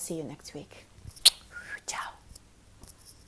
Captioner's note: smooches